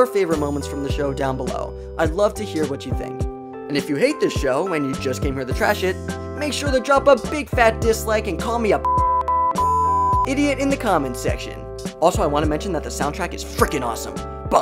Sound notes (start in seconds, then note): 8.8 beep beep beep